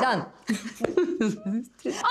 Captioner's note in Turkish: Gülme sesi